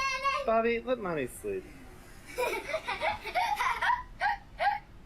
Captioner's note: laughs